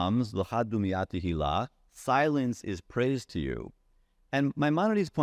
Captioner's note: speaking in Hebrew language